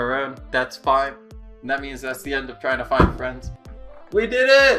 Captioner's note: phone Thumps